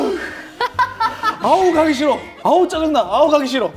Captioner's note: yelling ahead